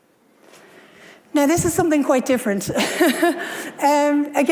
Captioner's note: laughs